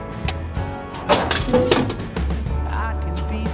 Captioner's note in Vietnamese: loảng xoảng